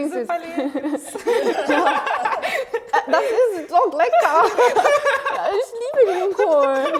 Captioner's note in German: lacht